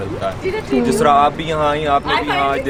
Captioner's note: indistinct chatter